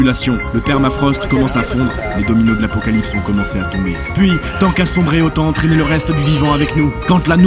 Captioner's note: ironic voice